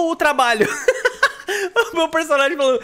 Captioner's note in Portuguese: risos